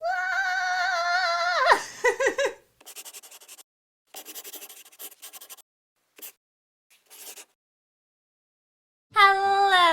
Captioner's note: the sound of a pen scratching